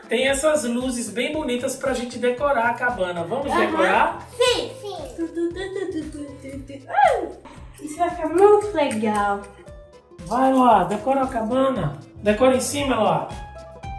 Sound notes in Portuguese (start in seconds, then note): 5.4 Cantarolando